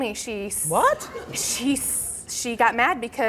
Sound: audience gasps

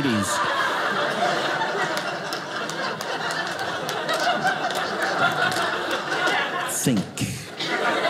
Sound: audience laughing

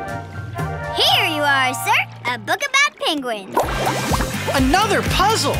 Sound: none

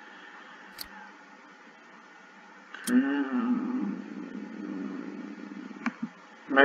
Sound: click

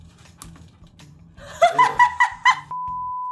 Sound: laughs

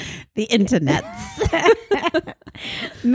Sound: both laugh

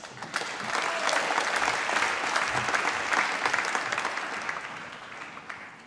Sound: applause

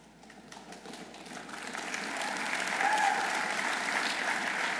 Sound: audience applauding

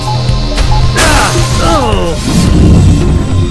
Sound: grunts

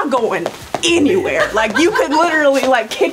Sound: woman laughing

